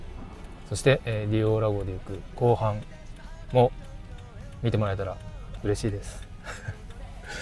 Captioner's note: laughs